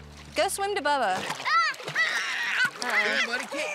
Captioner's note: shouts